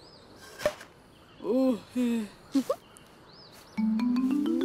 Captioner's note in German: seufzt; Trippelnde Musik